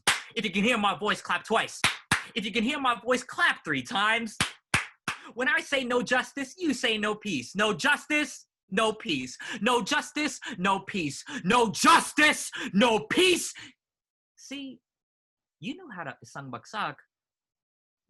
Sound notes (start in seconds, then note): 0.0 clap clap; 0.0 clap; 4.4 clap clap clap